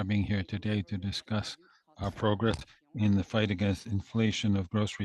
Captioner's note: speaking French